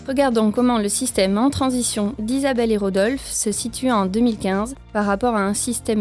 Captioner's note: voice-over